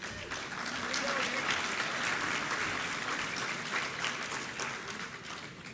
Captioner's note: applause